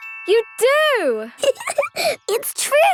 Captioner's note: giggling